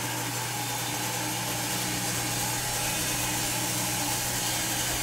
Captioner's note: machine sawing